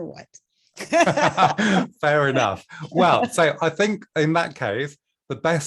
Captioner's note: laughter